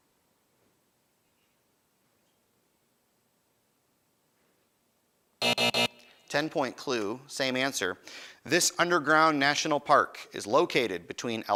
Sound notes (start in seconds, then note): 5.4 buzzing